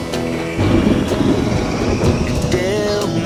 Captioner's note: thunder rumbling